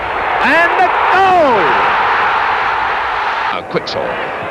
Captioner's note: crowd roaring